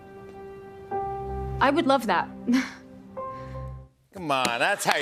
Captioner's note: chuckles